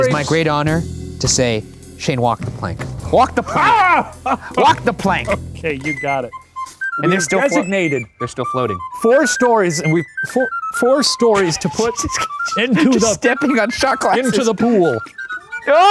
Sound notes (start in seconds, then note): 3.1 exclaims; 6.5 tin whistle plays